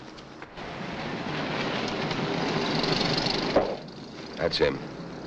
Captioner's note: cars rumbling